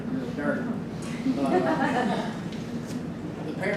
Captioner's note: group laughs